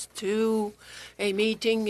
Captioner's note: speaking French